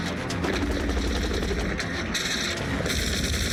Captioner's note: engine starts